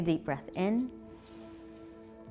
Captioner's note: exhaling; inhaling